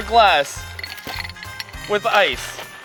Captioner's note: ice clattering